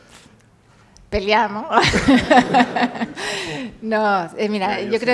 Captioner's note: laughs